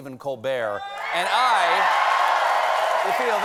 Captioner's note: cheers and applause